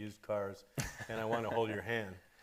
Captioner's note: laughing